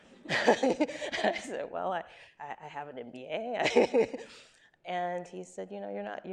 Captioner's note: laughs